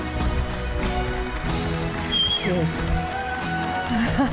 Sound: audience clapping; chuckling

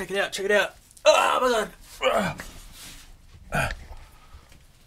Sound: grunting

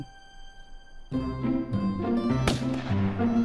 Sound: gunshot

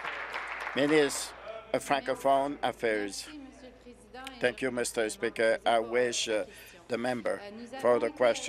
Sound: applause

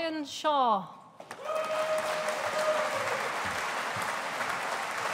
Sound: audience applauding

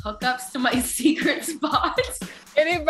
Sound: laughs

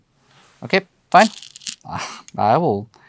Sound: stones rattling

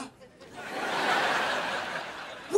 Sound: laughing

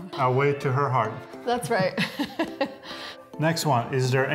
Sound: laughing

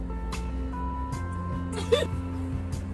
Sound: laughs

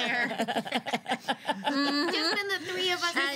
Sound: girls laughing

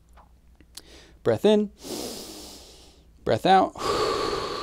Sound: exhales; inhales

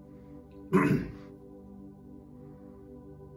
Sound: clears throat

